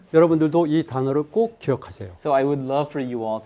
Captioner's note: speaking in Korean